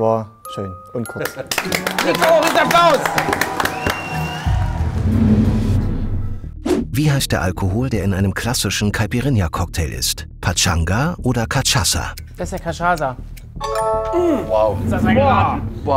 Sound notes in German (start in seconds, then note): 1.5 Applaus, Jubel, Pfiffe; 4.4 Geheimnisvolle Musik